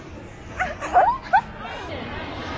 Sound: sweet laughter

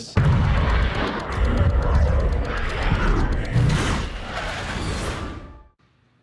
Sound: fighter jet engine noise

